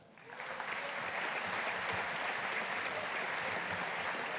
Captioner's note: audience applauding